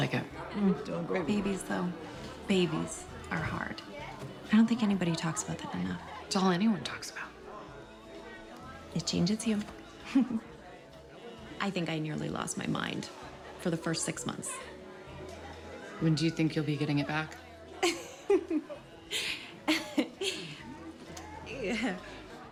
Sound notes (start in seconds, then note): 10.0 chuckles; 17.8 laughs